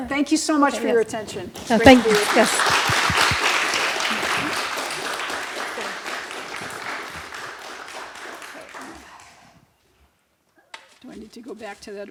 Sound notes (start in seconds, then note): 1.8 applause